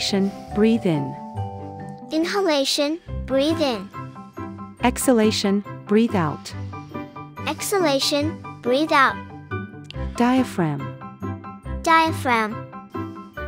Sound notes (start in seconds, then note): 3.9 breathe in; 6.4 breathe out